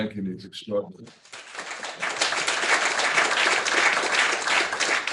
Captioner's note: attendees applauding